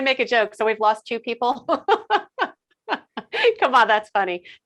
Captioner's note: laughing